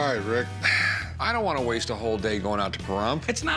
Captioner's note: sighs